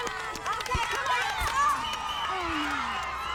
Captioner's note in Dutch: juichen